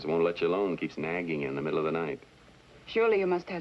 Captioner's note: none